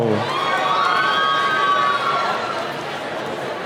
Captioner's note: cheering